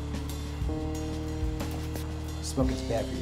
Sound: cigarette hits the ground

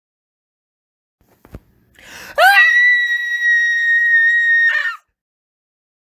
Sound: scream

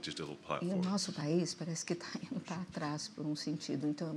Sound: speaking portuguese

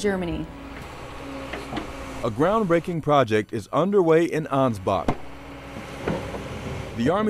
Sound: truck rumbling

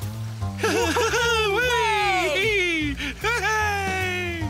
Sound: laughing and Cheering

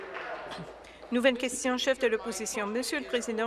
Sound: applause

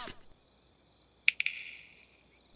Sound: snap

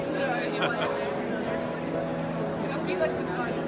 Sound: laughs

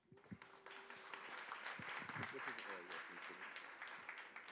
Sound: audience applause

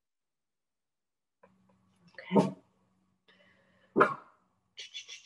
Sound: bark

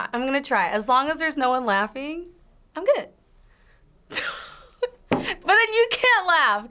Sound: laughs

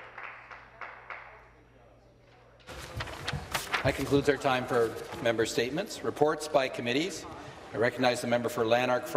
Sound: some Applause

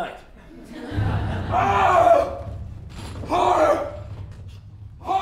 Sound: screams

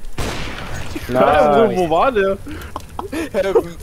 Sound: laugh

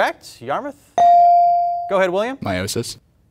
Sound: buzzer pings

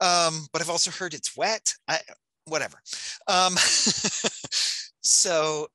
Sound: laughing

